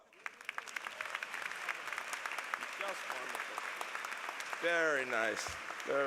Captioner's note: applause